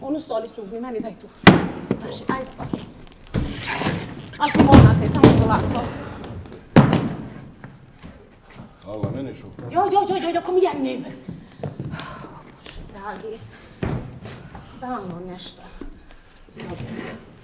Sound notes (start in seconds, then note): 9.0 Suzanna and Željko speak in Swedish